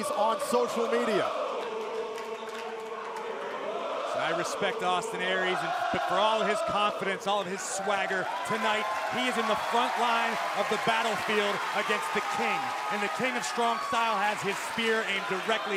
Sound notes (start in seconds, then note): 5.1 crowd cheering